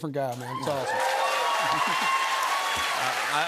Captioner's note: cheers and applause